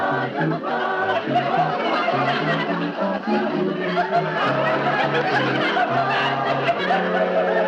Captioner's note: audience laughing